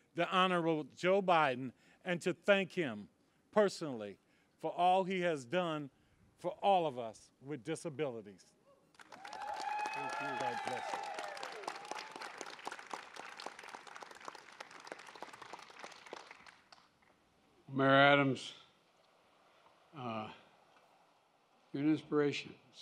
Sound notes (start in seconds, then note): 11.6 applause